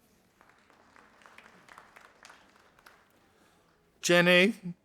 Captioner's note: audience applauding